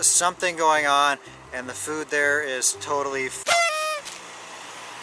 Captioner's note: party horn blares